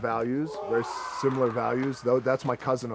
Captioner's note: man howls distantly